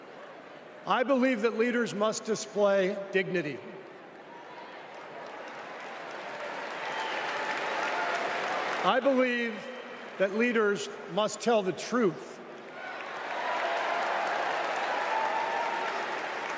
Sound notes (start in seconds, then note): 12.6 applause; 16.2 cheers and applause